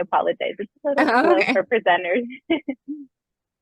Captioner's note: chuckles